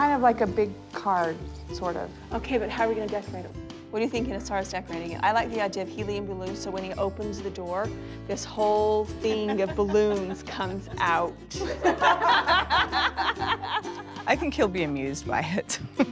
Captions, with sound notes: of like a big card, sort of. OK, but how are we going to decorate it? What are you thinking as far as decorating it? I like the idea of helium balloons so when he opens the door, this whole thing of balloons comes out. [LAUGHTER] I think he'll be amused by it.